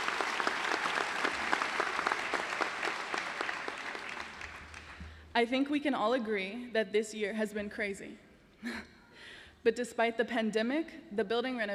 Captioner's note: cheering and applause